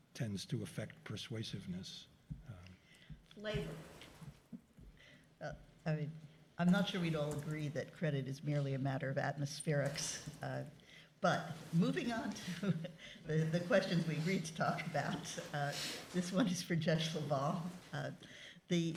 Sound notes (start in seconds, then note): 12.4 chuckles